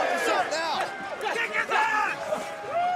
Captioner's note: crowd cheering